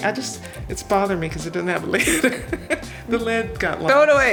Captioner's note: laughing